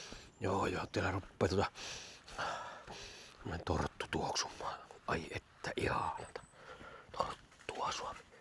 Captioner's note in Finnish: huokaus